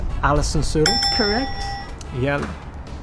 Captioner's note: bell dings